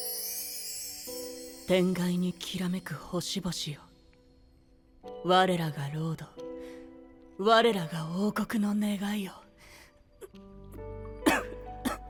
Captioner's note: cough